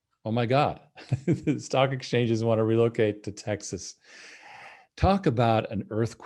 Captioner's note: chuckles